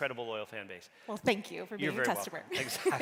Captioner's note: laughs